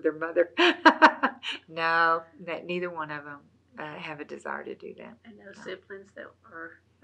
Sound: laughs

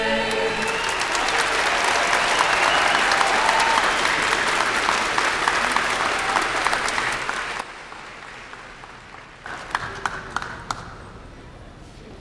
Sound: applause and cheers

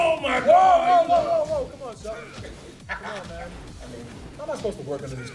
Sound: laugh

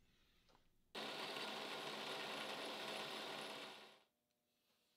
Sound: machine whirring

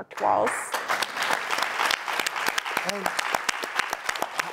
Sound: audience applauds

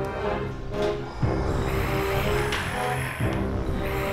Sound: growling

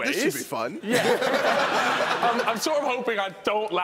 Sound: laughing

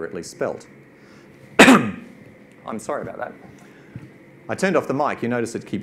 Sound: coughs

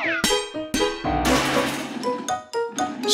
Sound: anchor crashing

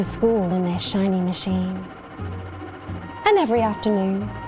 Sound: engine revs

